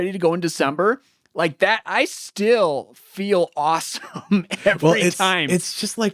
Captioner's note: laughs